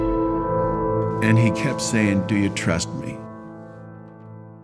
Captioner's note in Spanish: Voz en off\